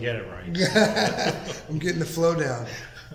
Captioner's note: laughing